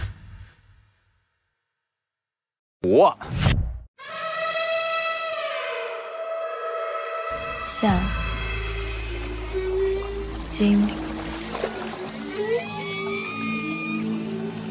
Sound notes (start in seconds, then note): 4.0 sample 1: The sound of elephants trumpeting; 8.0 sample 2: The sound of whales grunting